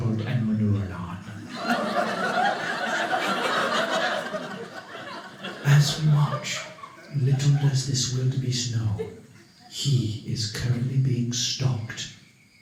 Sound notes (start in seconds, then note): 1.3 audience laughing